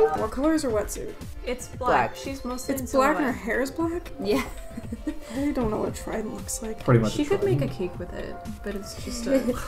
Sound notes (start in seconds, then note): 4.3 laughs